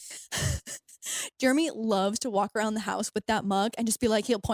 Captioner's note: chuckles